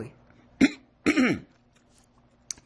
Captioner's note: clears throat